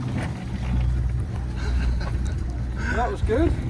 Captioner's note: laughing